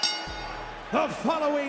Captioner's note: bell rings